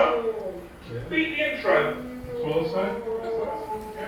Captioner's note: family chattering